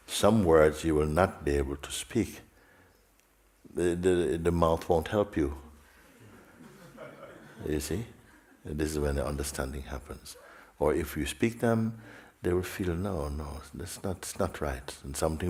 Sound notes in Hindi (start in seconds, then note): 6.3 हँसी